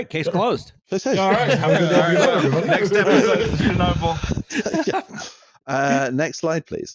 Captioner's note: laughing